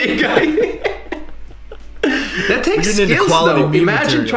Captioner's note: both laugh